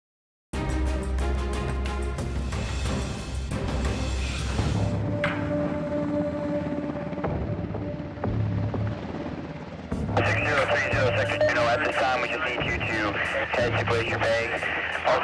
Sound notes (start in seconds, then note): 1.4 strong action music; 5.5 helicopter blades chopping; 10.0 heavy bass music